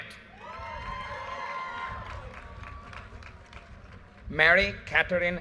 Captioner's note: audience cheers and applause